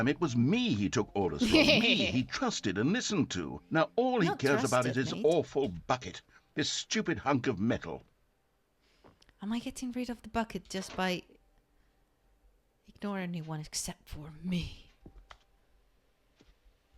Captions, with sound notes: [laugh] Not "trusted" mate Am I getting rid of the bucket just by... Ignore everyone except for me